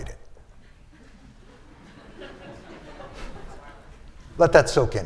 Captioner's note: laughter